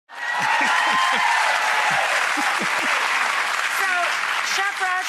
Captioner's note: applause; laughs